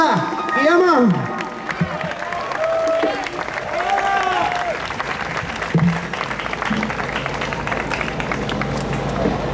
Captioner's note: audience applauds